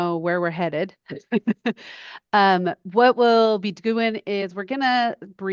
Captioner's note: laughs